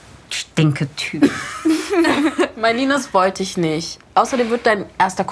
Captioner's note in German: Lachen